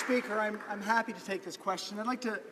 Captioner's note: some Applause